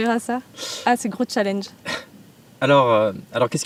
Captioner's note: laughs